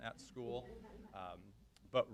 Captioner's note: chuckles